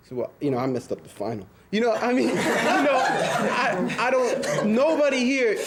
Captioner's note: students laughing